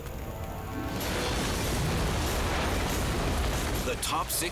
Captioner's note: building crashing